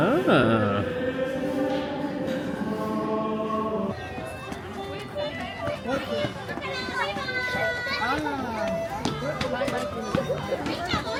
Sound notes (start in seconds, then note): 0.0 choral music continues; 5.8 kids shouting